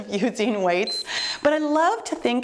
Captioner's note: timer beeps